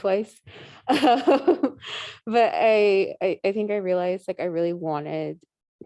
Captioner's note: laughing